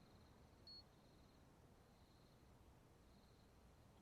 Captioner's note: crickets chirping